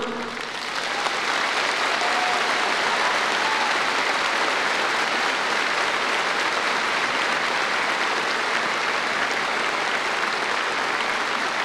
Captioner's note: applause